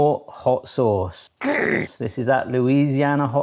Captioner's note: groans